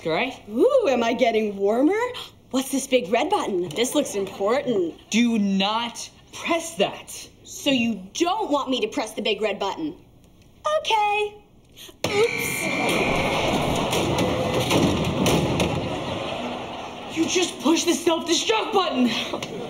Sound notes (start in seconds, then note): 12.1 alarm sounding